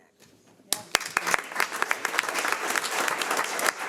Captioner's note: audience applauds